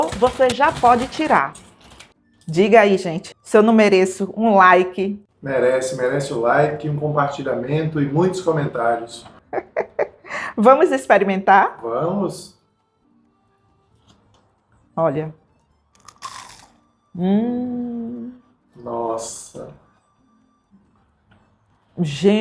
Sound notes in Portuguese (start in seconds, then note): 9.4 risadas